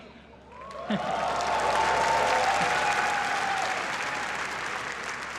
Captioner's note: applause